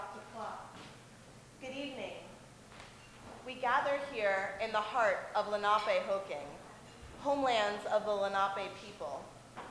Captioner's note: speaks in English